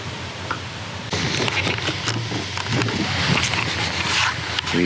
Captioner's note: accessories tapping